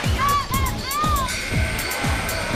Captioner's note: woman screaming; buzzer sounding